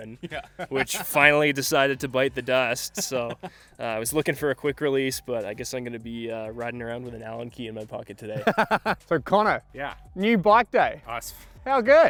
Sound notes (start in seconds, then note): 0.2 laughing; 8.4 laughing